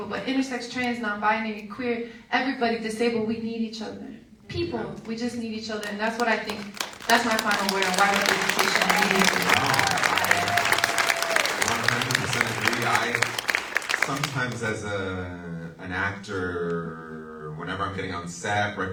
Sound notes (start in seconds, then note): 6.7 audience applauds